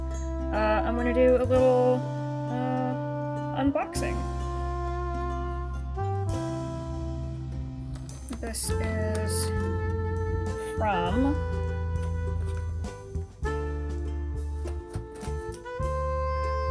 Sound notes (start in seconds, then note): 11.0 sounds of cutting tape